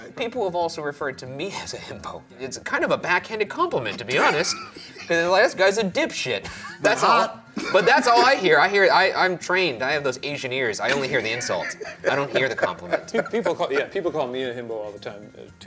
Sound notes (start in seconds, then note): 11.2 laughing